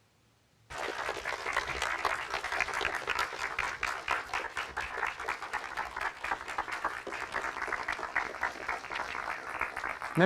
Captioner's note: applause